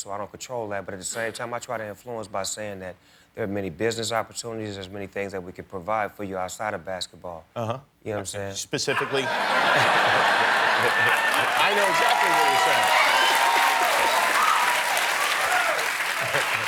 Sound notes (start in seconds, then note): 8.9 laughter; 13.2 applause